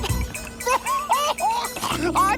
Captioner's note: laughing